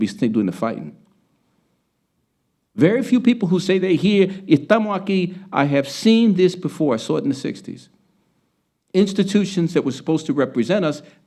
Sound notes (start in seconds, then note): 4.4 speaking Spanish